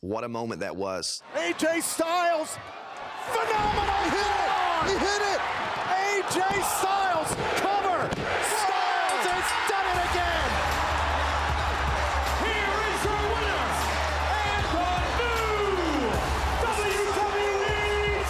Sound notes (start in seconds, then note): 8.9 bell rings; 11.6 crowd cheers; 11.6 rock music